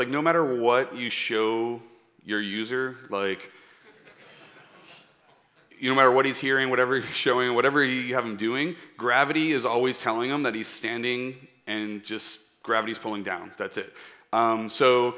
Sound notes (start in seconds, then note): 3.8 laughter